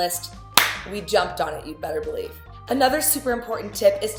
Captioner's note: clap